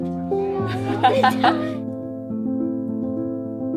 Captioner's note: laughing